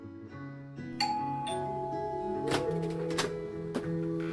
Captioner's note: doorbell ringing